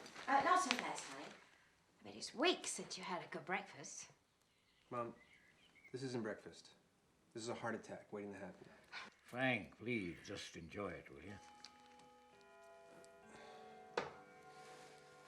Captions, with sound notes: - Not so fast, honey. I bet it's weeks since you had a good breakfast. - Mom, this isn't breakfast. This is a heart attack waiting to happen. - Frank, please, just enjoy it, will ya? (clock chimes) (sighs)